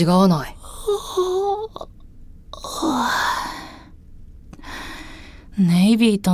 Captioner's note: yawn